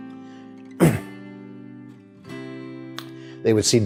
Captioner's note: coughs